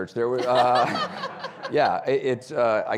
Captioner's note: audience laughing